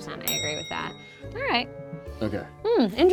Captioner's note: bell clicking sound